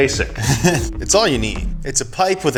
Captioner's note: laughs